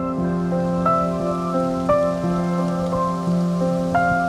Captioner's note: leaves crinkling